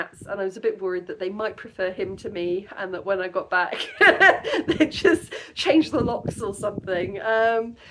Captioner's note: laughing